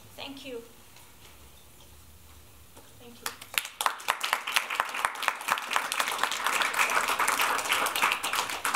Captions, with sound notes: Thank you. Thank you. [APPLAUSE]